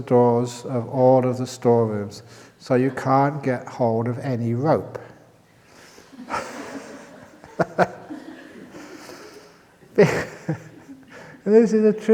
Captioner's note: laughter